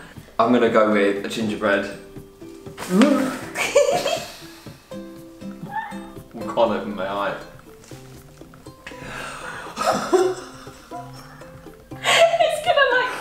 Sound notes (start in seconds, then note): 2.8 gasps; 2.9 Zoe laughs; 9.5 both laugh